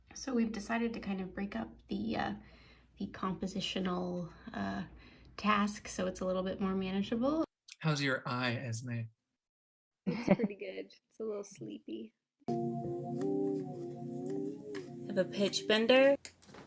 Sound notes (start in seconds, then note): 12.6 wah wah sounds